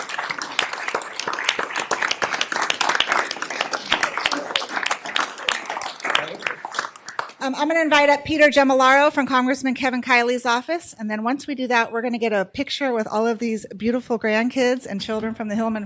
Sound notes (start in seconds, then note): 6.0 applause